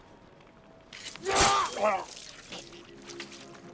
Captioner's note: yells